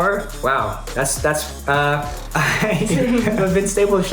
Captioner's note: chuckles